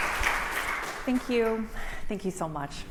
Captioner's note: applause